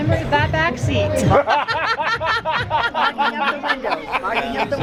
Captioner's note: laughter